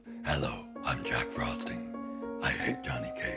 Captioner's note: in a deep distorted voice